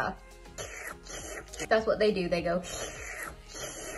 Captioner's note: slurp